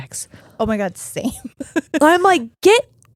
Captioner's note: giggling